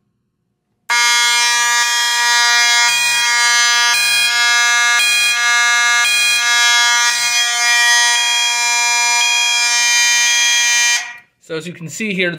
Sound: constant horn, intermittent electronic sounder

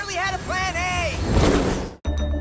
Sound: roars

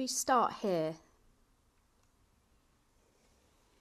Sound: pauses for 3 seconds

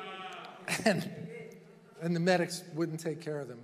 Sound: chuckling

